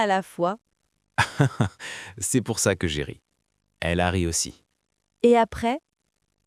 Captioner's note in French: rire